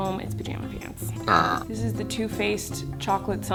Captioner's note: burping